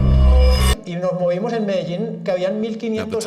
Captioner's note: Spanish spoken audio